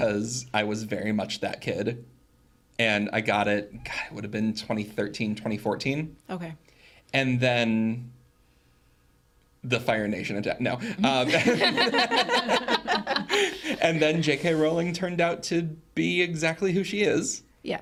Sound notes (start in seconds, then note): 10.9 group laughing